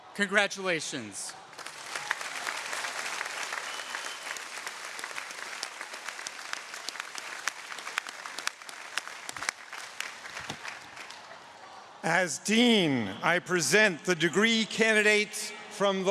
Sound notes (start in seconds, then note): 2.0 audience cheering